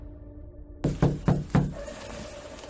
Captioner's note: knocking